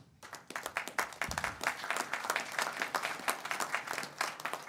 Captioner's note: audience applauds